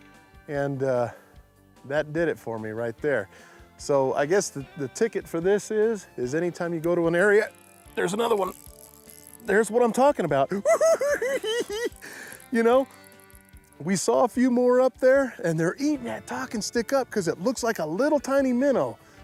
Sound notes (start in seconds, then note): 10.5 giggle s